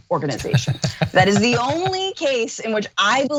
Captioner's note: laugh